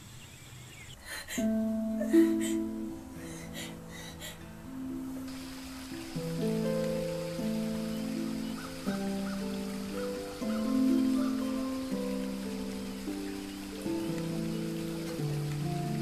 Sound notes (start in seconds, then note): 1.5 Kate breathing frantically; 6.5 light, mysterious harp music